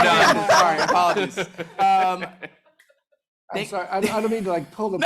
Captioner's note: panelists laughing